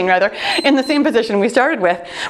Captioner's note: timer beeps